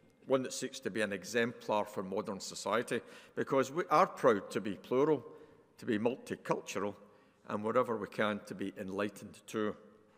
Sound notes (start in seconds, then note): none